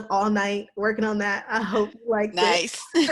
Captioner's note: laughs